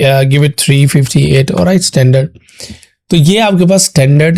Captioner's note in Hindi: नाक से की जाने वाली आवाज़